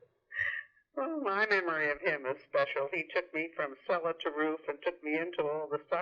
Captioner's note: laughs